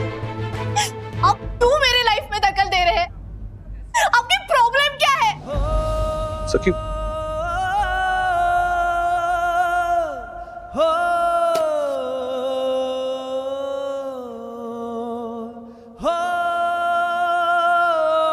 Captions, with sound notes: Why are you interfering in my life? What's your problem? Sakhi... [thuds] [melancholic music]